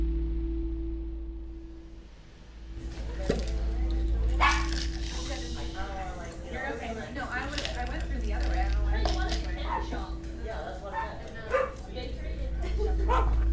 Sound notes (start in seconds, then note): 5.1 dogs barking, people chatting